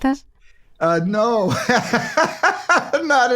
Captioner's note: laughter